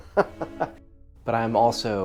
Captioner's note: laughs